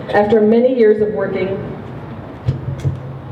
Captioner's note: none